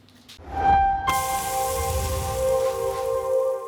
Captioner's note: swooshing